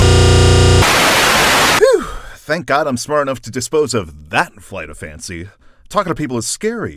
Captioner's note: phew